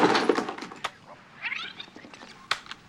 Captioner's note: recorder fast-forwarding